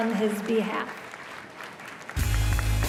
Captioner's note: cheers and applause